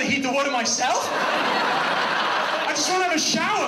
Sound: audience laughs

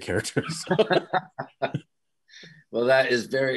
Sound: all laughing

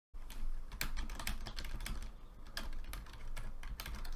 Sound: keys click

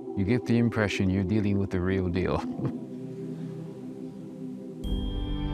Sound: laughs

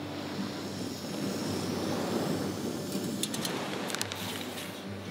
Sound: flame hissing

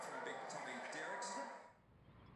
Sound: TV sounds continue

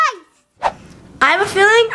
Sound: fast swoosh sound

